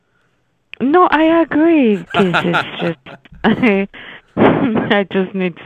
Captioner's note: laughs